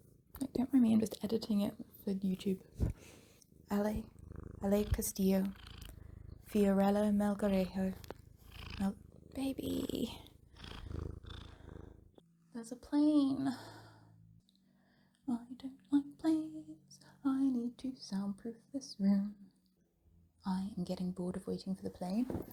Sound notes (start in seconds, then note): 7.9 intense purring; 10.7 agressive purring; 12.7 whiney; 15.1 singing